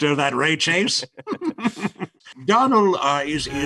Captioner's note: both laughing